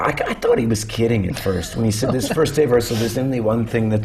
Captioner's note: laughter